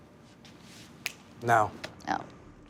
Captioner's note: fingers snap